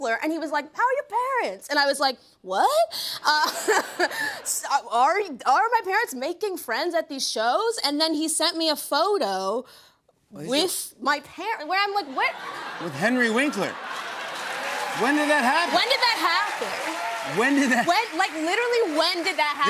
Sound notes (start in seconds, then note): 3.7 laughs; 13.4 applause